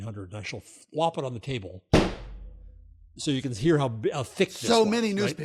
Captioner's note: flump